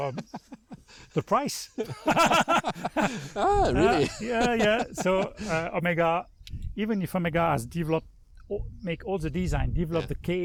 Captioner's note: laughing